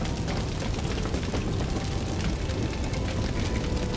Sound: fire crackling

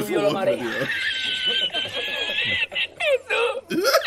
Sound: man speaking foreign language quickly; laughs

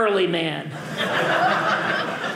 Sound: audience laughing

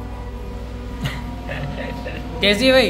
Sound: chuckles

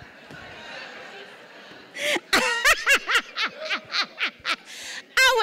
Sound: laughing

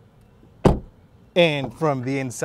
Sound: car door shutting

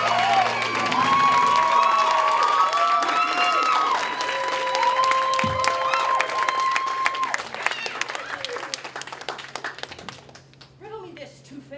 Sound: applause

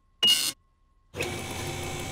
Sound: beeping

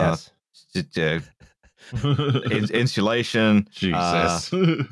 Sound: stammers

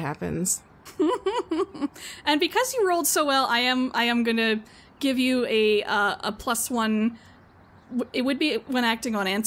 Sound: laughs

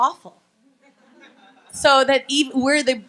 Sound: laughing

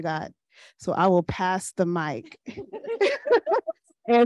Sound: panelists chuckle

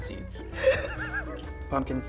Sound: laughing

